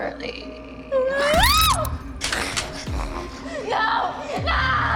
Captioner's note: Kira screams